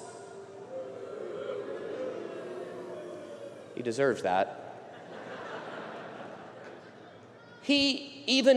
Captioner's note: audience boos